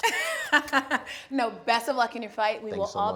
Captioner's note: laughing